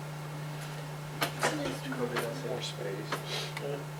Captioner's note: chatter